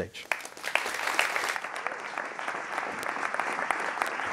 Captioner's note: applauding